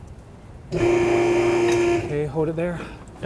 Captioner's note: lift whirring